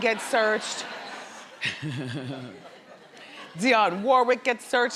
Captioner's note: crowd laughs